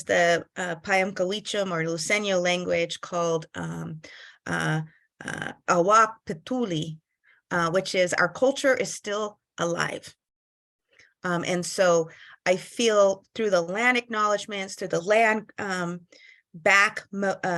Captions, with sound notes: the [NON-ENGLISH SPEECH] luiseno language called [NON-ENGLISH SPEECH],, which is our culture is still alive. And so I feel through the land acknowledgments, through the land back--